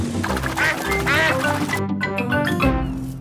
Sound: quacks

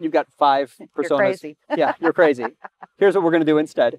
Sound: laughs

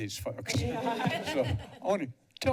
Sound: laughter

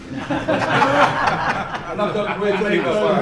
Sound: laughter

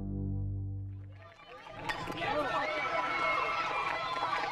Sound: cheering; baseball Bat Clinks

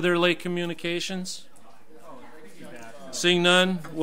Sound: overlapping chattering

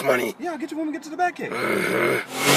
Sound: growls

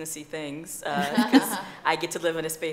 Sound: laughing

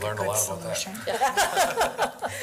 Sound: laughing

